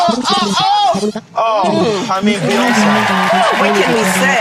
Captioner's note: cheering